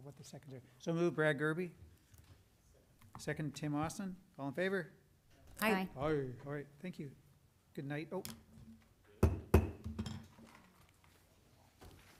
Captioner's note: tap, Tap